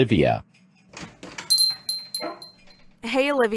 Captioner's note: door opens, bell jingles